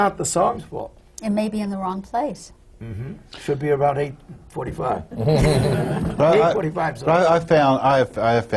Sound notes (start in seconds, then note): 5.1 laughter